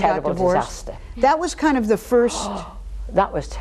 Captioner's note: exclaims